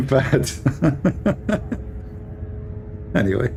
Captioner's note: Ketawa